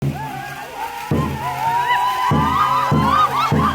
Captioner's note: people chanting